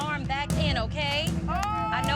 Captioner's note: screaming